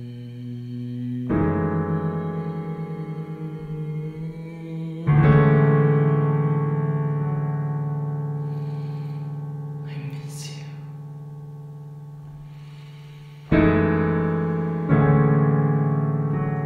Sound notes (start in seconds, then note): 10.7 whispering; 13.4 piano music